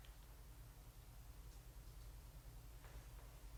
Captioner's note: none